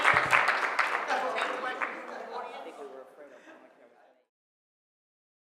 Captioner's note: people talking